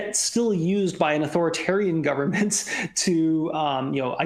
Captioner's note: laughter